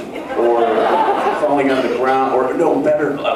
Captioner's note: laughs